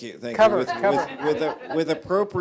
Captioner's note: general laughter